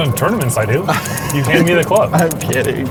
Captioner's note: laughs